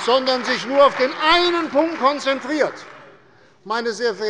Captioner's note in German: Beifall bei der CDU und dem BÜNDNIS 90/DIE GRÜNEN